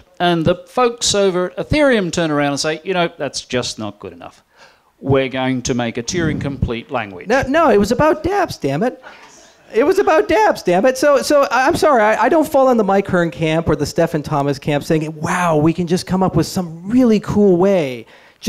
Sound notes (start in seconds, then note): none